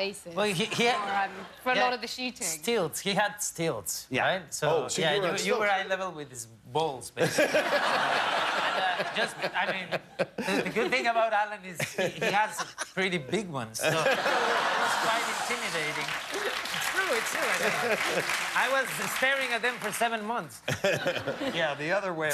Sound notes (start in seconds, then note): 7.2 laughter; 13.8 laughter; 14.7 applause